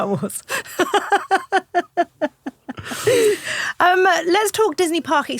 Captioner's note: laughing